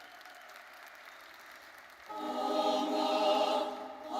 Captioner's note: audience applauding